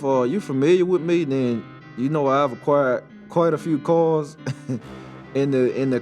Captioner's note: chuckles